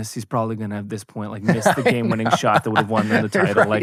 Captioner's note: laughs